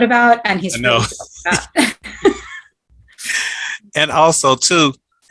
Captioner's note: chuckling